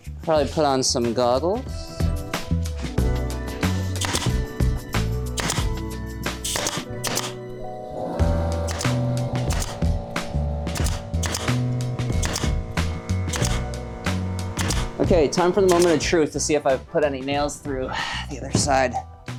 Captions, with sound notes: Probably put on some goggles. (nailer popping) Okay, time for the moment of truth to see if I've put any nails through the other side.